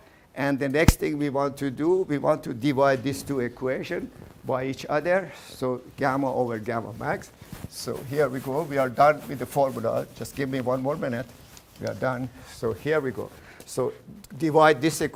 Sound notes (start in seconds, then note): none